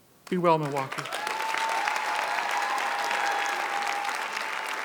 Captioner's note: audience cheers